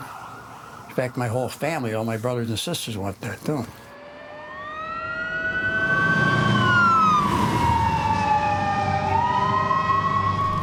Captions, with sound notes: In fact, my whole family, all my brothers and sisters went there too. (sirens wailing) (tense music) (fire crackling)